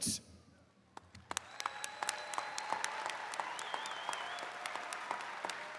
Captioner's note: attendees cheering